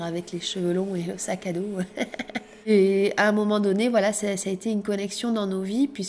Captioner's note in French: rires